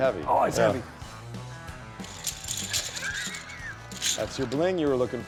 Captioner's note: chain clinking